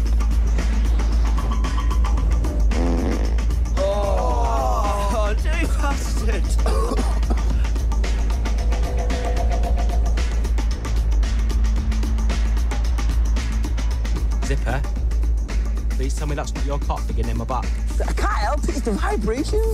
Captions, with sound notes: [fart] Ohh! Jesus shit! [coughing] Zippy, please tell me that's not your cock digging in my back. I can't help it. It's the vibrations.